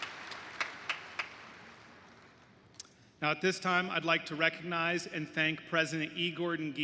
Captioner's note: cheers & applause